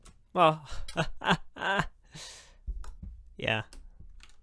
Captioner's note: laughs